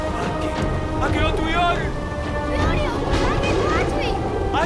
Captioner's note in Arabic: الصوت المنطوق البدوي